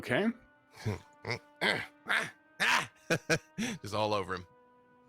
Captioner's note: grunting